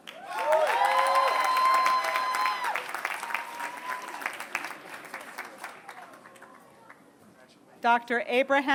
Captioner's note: applause